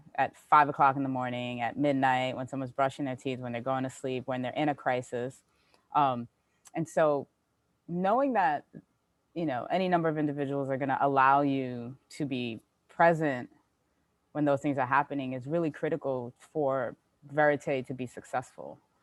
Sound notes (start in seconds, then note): none